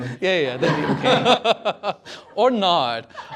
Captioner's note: laughter